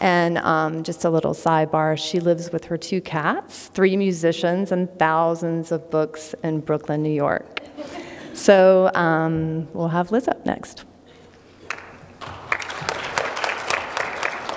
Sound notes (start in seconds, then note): 7.6 laughter; 12.2 applause